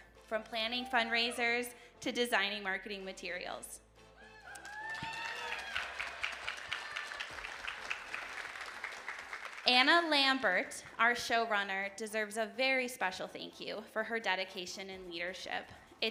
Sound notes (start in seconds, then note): 4.2 audience cheering; 4.4 audience applauding